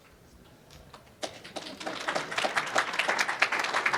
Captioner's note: applause